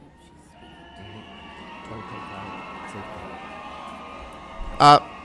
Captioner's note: loud cheering